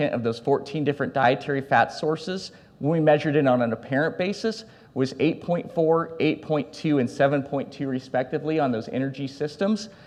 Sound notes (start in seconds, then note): none